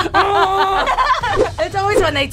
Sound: both laugh

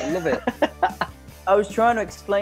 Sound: laughing

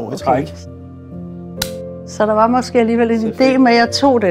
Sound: champagne popping

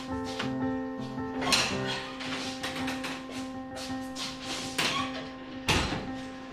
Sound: door opens and closes

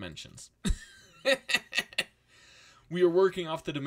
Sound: laughs

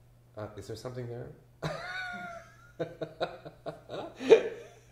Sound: laughs

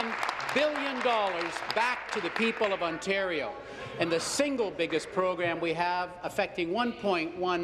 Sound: applause

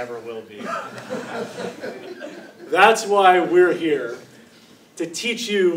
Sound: laugh

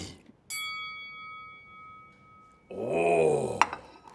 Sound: bell pings

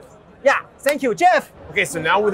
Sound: clapping

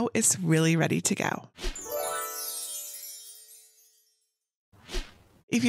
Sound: gentle chiming

